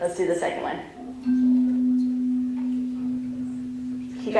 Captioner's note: tone